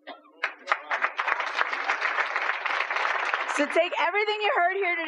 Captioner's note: applause